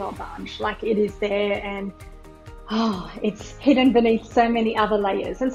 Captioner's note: sighs